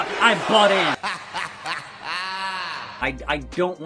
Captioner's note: laugh